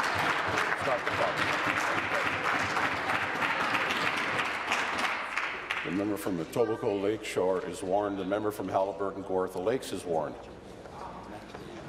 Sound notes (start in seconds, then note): 3.7 applause